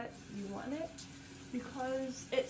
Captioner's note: sink faucet hissing